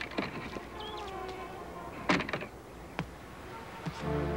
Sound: door creaks; tense music

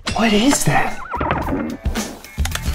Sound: neighing

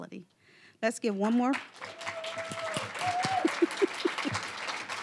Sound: applause; giggling; applause

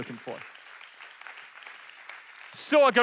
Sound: audience applauds

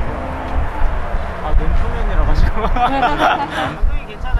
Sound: haha

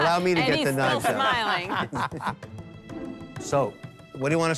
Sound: laughs

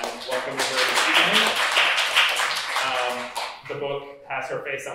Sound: applause

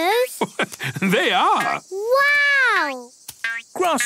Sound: laugh

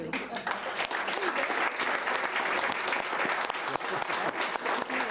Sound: audience applauding

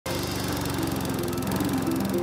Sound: lawnmower whirrs

